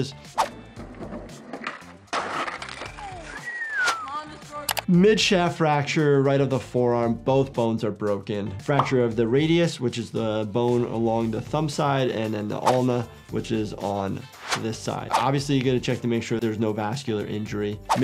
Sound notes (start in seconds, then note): 0.1 graphic whooshes; 0.8 skateboard clatters; 1.8 skater moans; 12.6 graphic whooshes; 14.3 graphic whooshes; 17.3 graphic whooshes